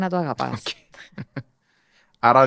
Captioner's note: he laughs